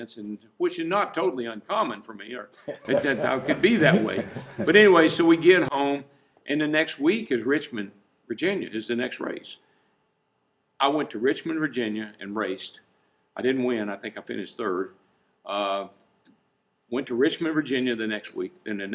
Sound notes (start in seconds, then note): 2.6 laughing